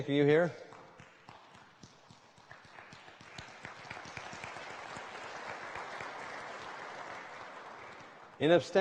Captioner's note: applause